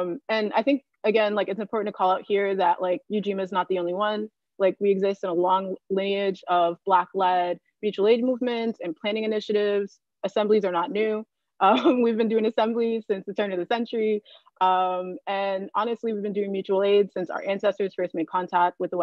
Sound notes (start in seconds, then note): 12.0 chuckling